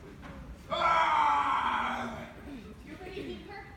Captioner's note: very deep, manly scream